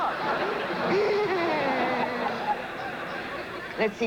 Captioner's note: giggling